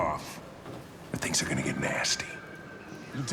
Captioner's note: snarl